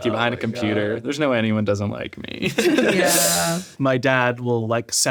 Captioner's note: laughs